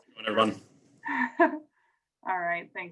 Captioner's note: chuckling